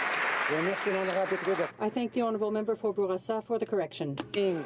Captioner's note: some Applause